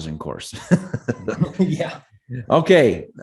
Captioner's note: laughs